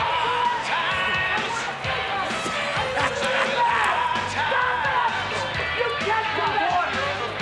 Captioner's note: crowd chattering; upbeat music